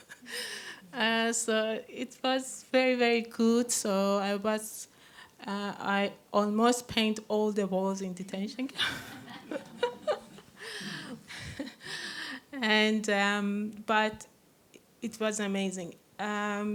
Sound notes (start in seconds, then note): 8.7 laughter